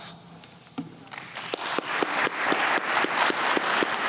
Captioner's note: applause